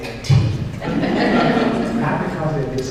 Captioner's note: laughter